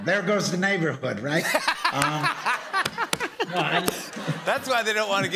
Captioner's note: laughter